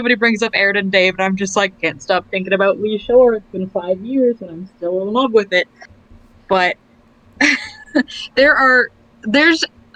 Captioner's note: laughs